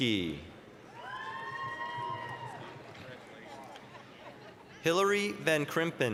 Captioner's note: applause, cheering